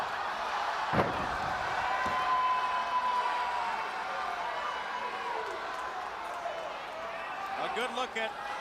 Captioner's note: crowd chatter